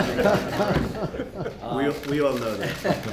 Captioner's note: laughter